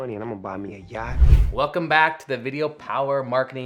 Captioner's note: screen whooshing